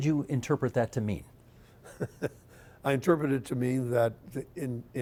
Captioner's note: chuckling